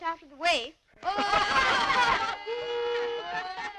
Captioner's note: laughter